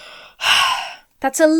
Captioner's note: sighs